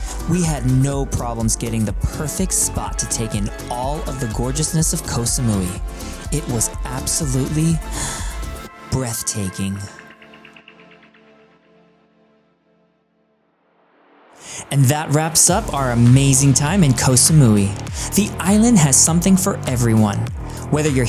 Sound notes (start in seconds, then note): 9.2 takes breath